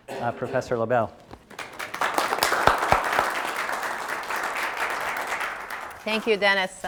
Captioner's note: applause